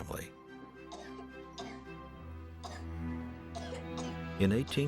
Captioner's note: child coughing